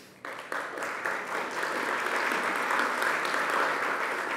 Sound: audience applauding

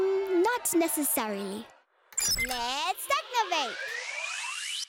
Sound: beep!; echoing

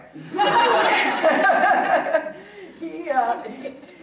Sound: audience chuckling

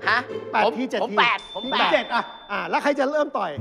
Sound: pong

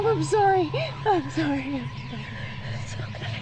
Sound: whimpers

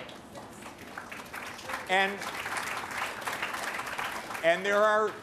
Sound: applause

